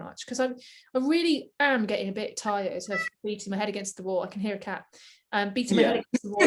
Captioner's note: meow